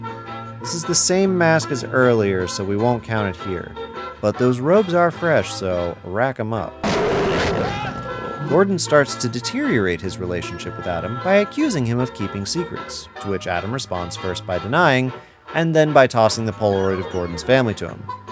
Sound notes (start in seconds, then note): 6.9 dr. gordon screaming